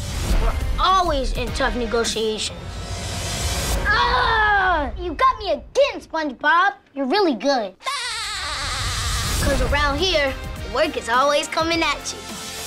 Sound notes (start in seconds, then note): 7.8 SpongBob laughs